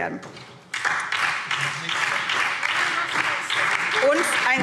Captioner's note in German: Beifall SPD und DIE LINKE